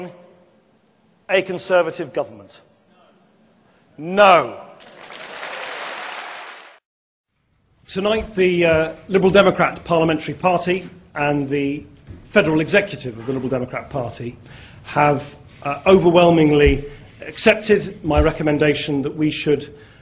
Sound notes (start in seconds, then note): 4.8 audience applause